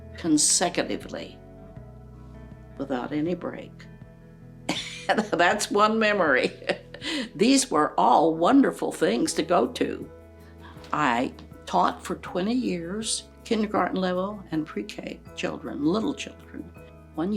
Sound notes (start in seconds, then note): 6.4 chuckles